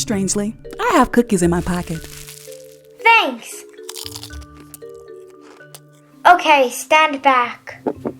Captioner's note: cookie crunching sound